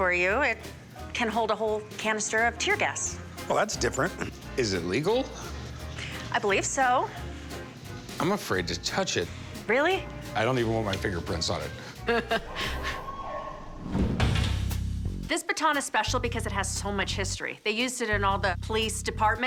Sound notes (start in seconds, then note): 11.7 laughs; 13.0 siren blares